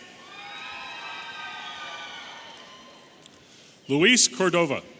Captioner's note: audience cheering